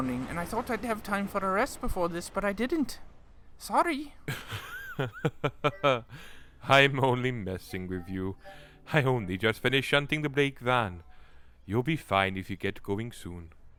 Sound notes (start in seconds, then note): 4.2 freddie chuckles